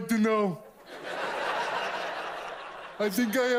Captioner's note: audience laughs